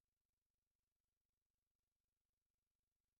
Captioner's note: none